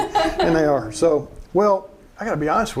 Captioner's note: laughing